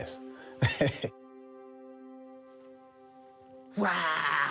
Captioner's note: laughs